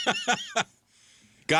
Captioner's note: laughing